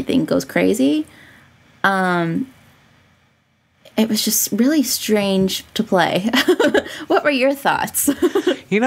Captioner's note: laughs